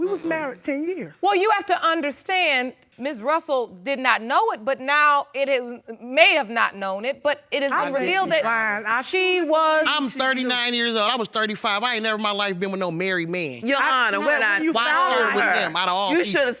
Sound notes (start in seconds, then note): 5.4 stammering